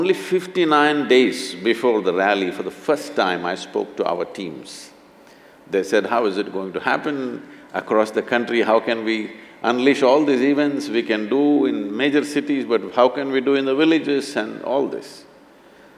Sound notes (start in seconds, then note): none